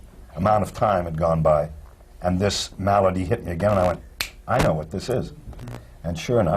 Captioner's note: snaps fingers